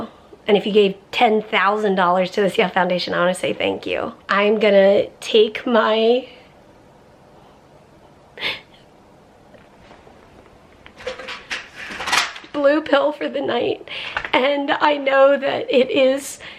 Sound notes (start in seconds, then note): 8.3 crying